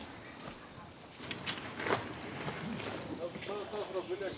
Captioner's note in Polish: głosy ptaków, brzęczenie owadów